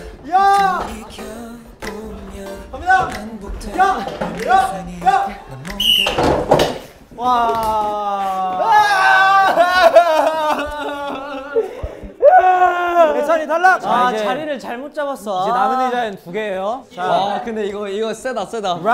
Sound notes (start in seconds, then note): 9.5 sobbing